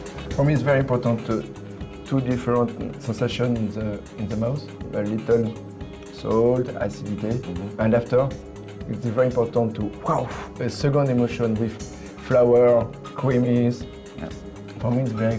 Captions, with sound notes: For me, it's very important, the two different sensations in the mouth. When you eat them - salt and acidity, and after it's very important to... (EXPLAINS IN FRENCH)